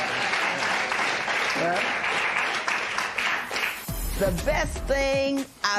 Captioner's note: applause